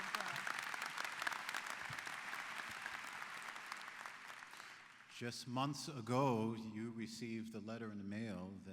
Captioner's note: applause